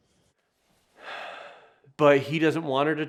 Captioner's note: sighs